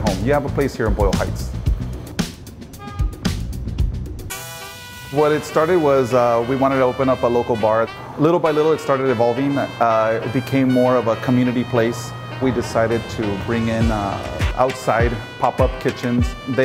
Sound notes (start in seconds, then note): 3.4 honk